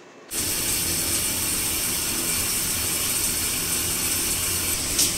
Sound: showering

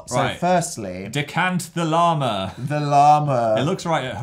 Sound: laughs

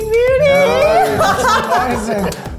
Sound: laughs

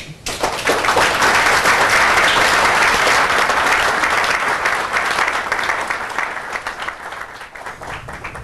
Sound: applause

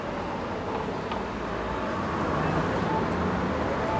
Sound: cars passing

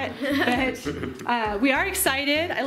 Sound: laughs

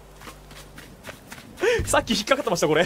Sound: inhales

